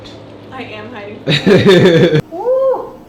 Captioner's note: laughs